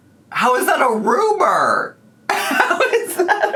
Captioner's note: laughing